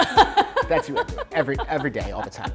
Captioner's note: laughs